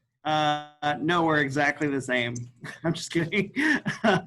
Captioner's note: laughs